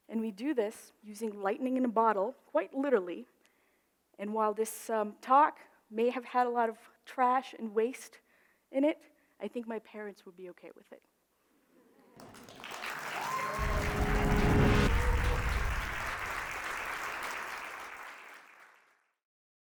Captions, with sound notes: and we do this using lightning in a bottle quite literally. And while this talk may have had a lot of trash and waste in it, I think my parents would be okay with it. (crowd applauds) (reverberating music)